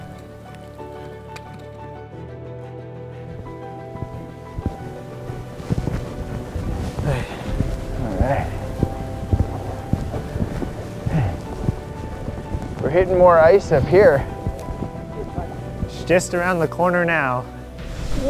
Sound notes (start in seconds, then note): 0.1 adventurous music continues; 5.7 heavy breathing and grunting